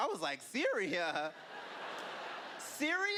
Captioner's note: laughter